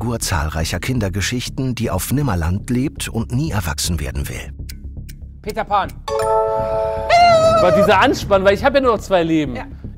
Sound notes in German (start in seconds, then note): 6.1 Klingeln, freudige Laute